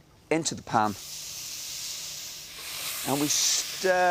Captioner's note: food sizzling